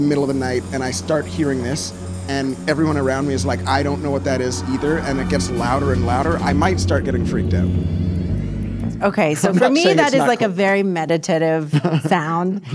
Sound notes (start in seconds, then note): 7.8 humming